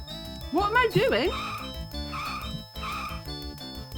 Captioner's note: tyres screeching